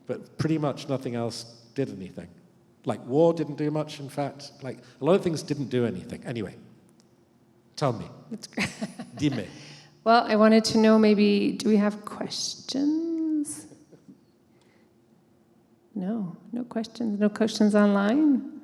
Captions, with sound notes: But pretty much nothing else did anything. Like war didn't do much, in fact. Like, a lot of things didn't do anything. - Anyway, tell me. - That's great [chuckles]. Dimmi. Well, I wanted to know maybe, do we have questions? No, no questions. No questions online?